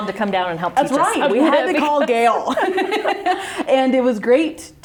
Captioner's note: laughs